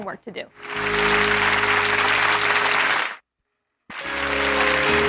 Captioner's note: audience applause